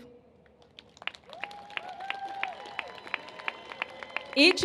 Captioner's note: cheers and applause